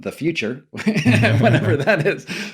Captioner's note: laughter